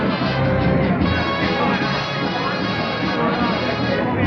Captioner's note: chattering